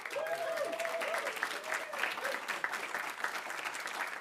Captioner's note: audience applauding